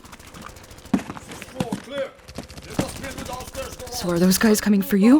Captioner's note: distant gunfire and shouting